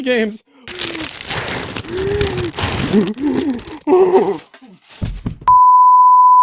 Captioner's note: hyperventilating